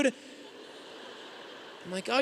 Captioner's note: audience laughing